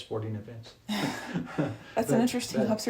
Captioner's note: both laugh